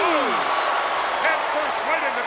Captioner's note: audience cheers